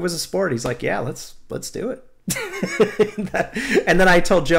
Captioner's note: laughter